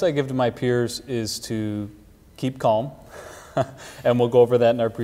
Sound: chuckles

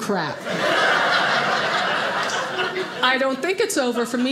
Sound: audience laughing

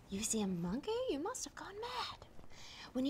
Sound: none

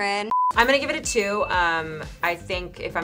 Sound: beep; bell rings

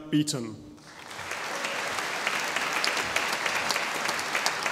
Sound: audience applauding

